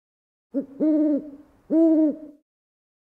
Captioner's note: owl hooting